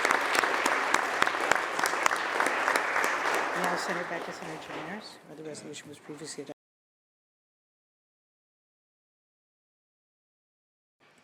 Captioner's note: applause